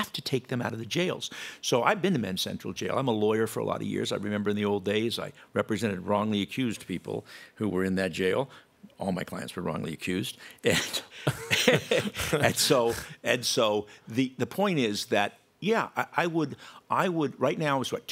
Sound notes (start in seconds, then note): 11.2 laughter